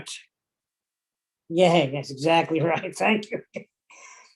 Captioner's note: laughing